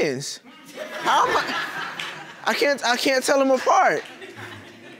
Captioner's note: audience laughing